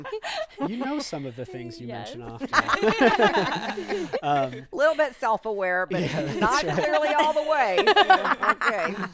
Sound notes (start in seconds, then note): 2.2 group laughing